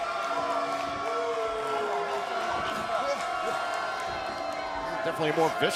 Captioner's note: crowd cheering